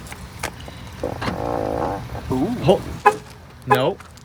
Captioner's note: fart